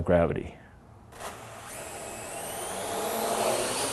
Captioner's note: whirring